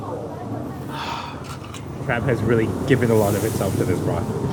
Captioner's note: exhales